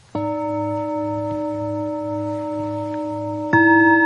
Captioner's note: bells chiming